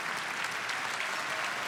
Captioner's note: applause